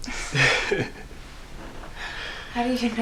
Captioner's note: both laughing